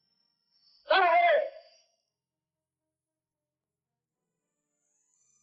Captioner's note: man shouting in foreign language